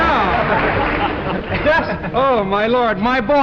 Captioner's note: laughter